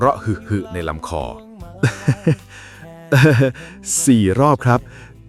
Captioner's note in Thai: เสียงหัวเราะ